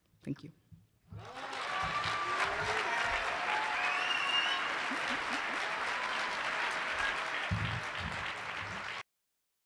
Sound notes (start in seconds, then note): 1.1 applause and cheers